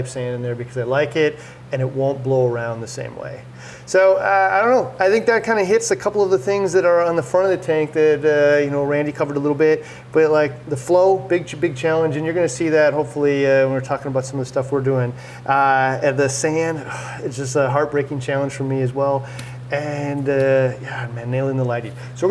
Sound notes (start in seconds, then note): 16.8 sighs